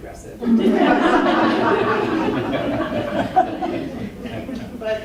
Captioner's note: laughter